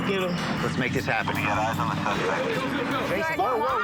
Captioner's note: on phone